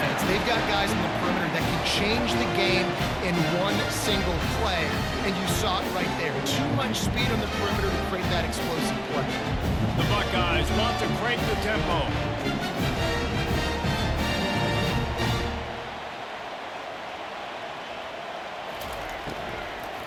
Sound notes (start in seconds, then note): 13.7 cheering, applause